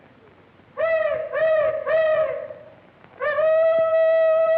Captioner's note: hollering